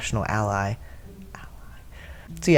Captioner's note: whispers